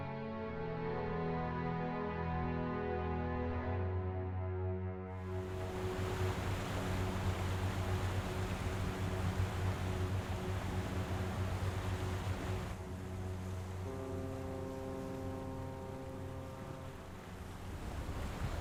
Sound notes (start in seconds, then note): 13.6 boat horn blows